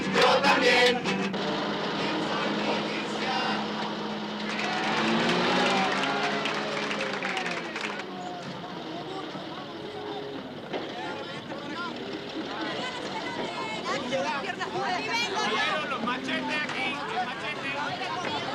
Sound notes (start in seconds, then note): 5.8 passengers applauding; 10.5 indistinct chatter